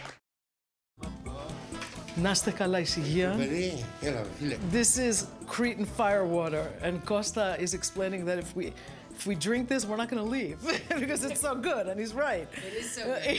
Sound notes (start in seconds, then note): 2.9 speaking in greek